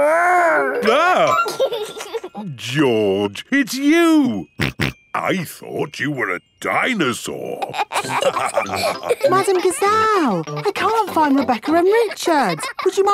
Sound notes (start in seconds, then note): 0.0 exclaims; 1.0 giggles; 4.6 snorting; 7.7 all laughing